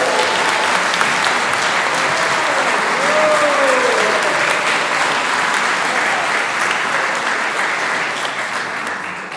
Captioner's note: applause